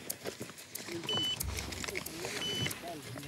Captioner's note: Spanish language; machine beeping